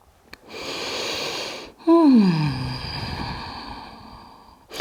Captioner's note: breathes and sighs